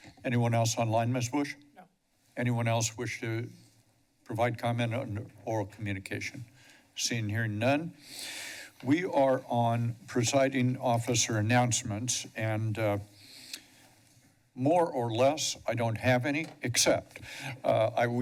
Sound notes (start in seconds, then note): 8.0 inhales